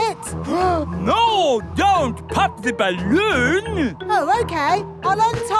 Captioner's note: gasps